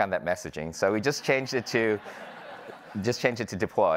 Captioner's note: audience laughing